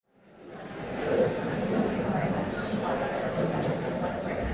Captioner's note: audience chatter